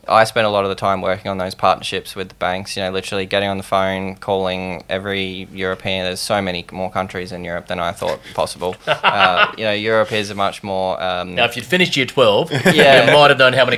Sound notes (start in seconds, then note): 8.7 laughing